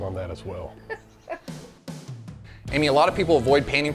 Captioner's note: laughing